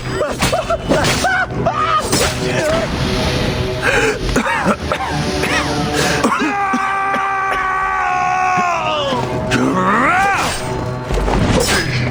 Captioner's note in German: schreien